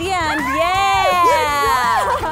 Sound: cheering

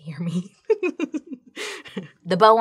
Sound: giggles

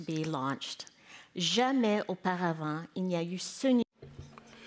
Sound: speaking in French

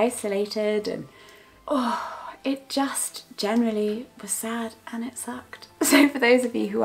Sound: sigh

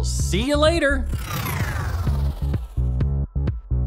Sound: loud whooshing

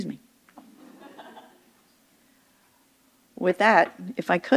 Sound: audience members chuckle

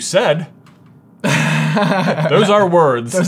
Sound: laughs

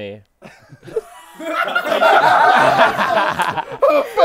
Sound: people laughing

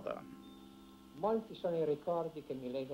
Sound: speaking in Italian

